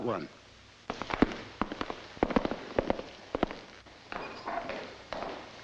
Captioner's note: footsteps echoing